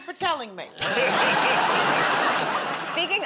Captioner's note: laughter